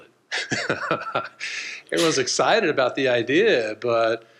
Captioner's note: laughs